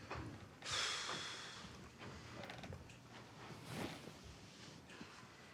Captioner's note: Abe exhales sharply